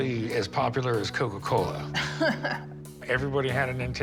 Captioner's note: laughing